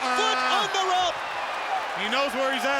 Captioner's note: audience cheers